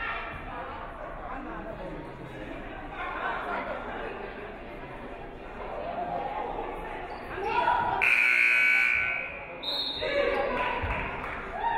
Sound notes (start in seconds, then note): 8.0 buzzer buzzes; 9.7 referee whistles; 10.5 audience clapping; 11.5 audience cheering